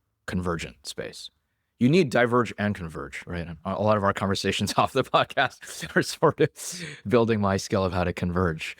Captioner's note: laughs